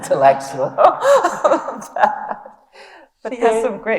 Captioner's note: laughs